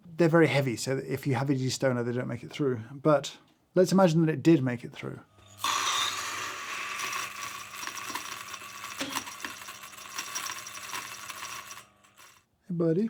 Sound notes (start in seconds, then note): 5.3 grinder whirring; 5.4 beans grinding; 7.0 metal clacking; 9.1 metal thudding and clacking